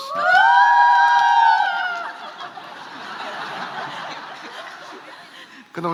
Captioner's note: cheers and laughs